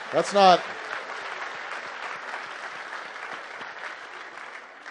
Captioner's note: applause